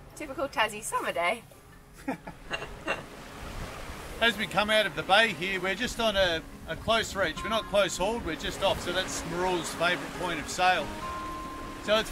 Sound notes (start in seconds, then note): 2.0 laughs